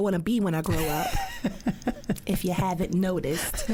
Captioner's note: laughs